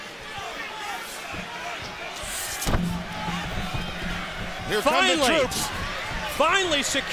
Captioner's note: crowd chatter